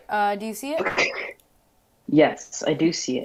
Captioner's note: laughs